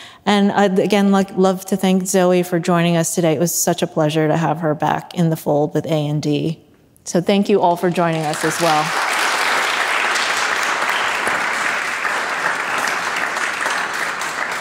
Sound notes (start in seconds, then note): 10.0 audience applauding